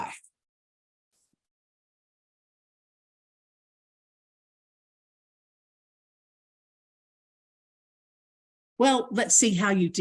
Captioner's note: silence